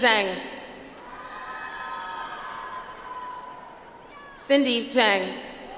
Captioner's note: audience applauds